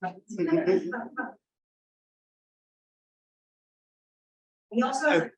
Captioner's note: audience members laughing